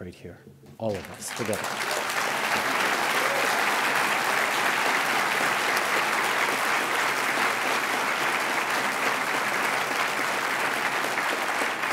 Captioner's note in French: Applaudissements